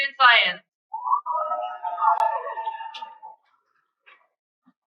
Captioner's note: cheering